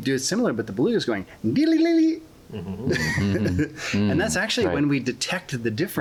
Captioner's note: laughter